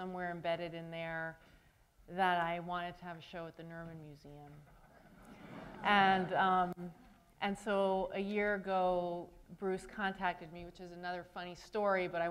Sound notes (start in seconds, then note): 4.8 laughter